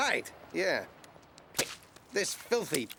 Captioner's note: splashing